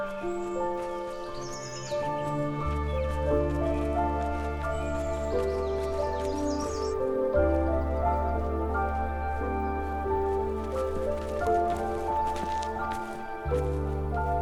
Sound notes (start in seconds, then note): none